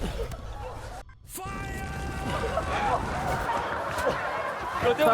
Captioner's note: moving to the front with steady footsteps